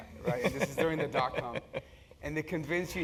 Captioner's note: laugh